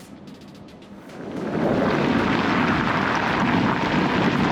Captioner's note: tires roaring